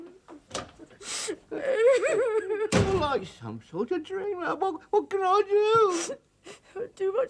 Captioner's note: wife keeps sobbing